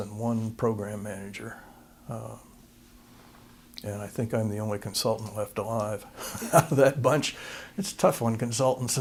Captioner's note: laughter